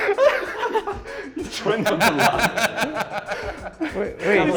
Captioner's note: laughter; laughter